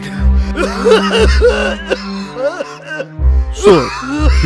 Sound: coughing

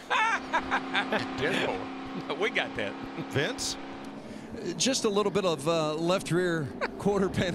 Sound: laughs

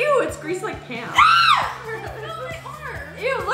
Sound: screams

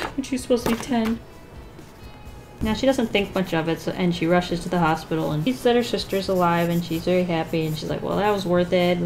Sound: none

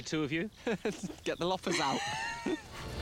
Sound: laughing

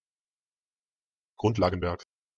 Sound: fast Pronunciation

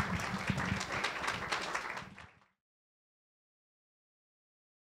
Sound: clapping

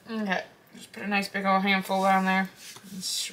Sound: none

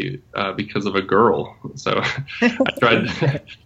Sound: laughs

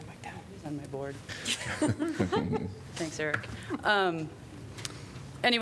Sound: laughter

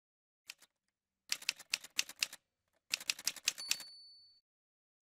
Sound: typewriter sounds

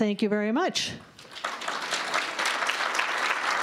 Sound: applause

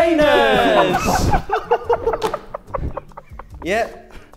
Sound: Sidemen laughing

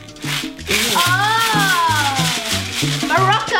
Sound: bottle rattling

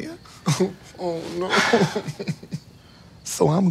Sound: sobbing

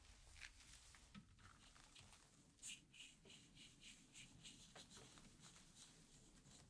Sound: gentle brushing

